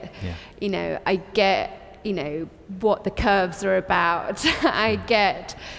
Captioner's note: laughs